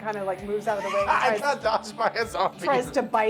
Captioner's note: laughs